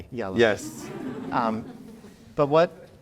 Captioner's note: crowd laughs